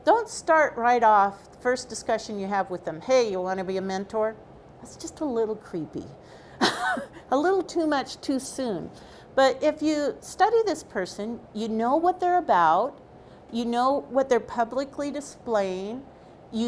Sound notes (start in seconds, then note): 6.6 laughs